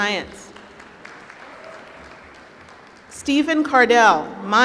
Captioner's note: applause